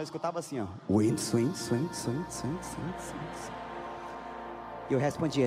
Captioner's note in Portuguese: voz ecoando